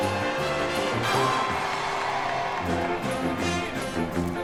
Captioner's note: crowd cheering